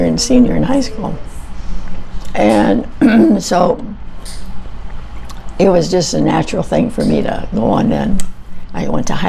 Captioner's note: clears throat